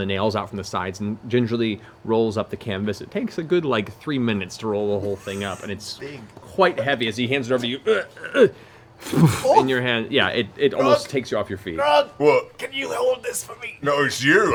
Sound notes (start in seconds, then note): 9.0 heavy grunt